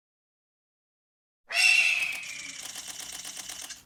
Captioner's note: terrifying eagle screech